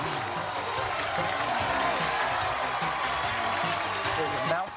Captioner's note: cheers and applause